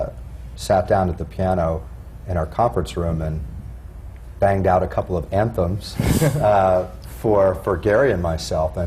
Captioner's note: laughter